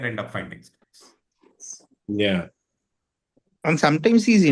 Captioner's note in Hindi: नाक से की जाने वाली आवाज़